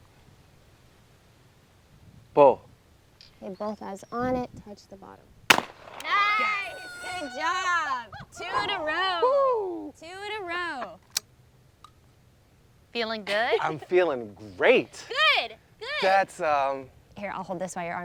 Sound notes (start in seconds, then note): 5.5 shotgun bangs